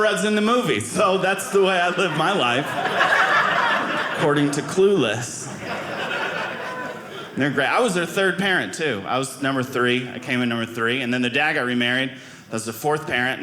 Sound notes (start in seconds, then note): 2.9 audience laughing